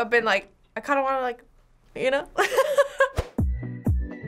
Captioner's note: laughs; upbeat music